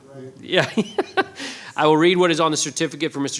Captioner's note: laughing